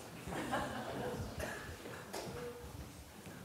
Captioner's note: audience laughs